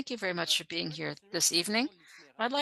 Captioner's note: speaking French